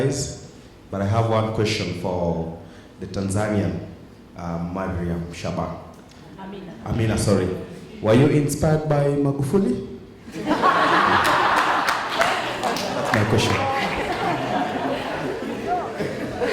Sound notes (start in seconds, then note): 10.3 laughing